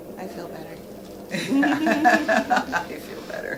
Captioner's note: all laughing